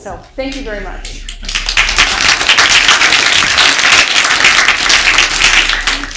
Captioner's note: applause